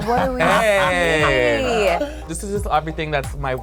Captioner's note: laughs